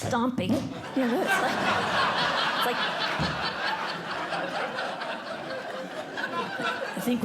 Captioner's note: laughter